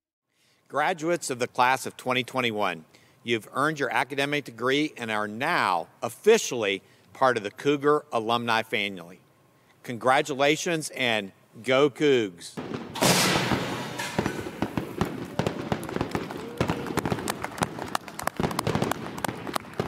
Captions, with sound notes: - Graduates of the Class of 2021, you've earned your academic degree and are now officially part of the Cougar Alumni family. Congratulations, and go Cougs! (firework popping) (all clapping)